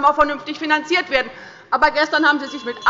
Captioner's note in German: Anhaltende Unruhe - Glockenzeichen des Präsidenten